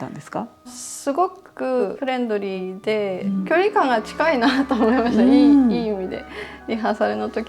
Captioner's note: laughs